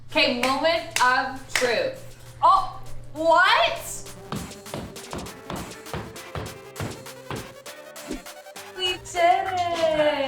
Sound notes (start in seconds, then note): 1.5 hands clapping; 4.3 mallet thudding